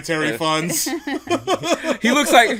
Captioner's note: laughs